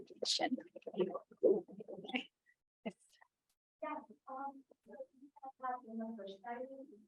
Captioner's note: audio blurs; student quietly talking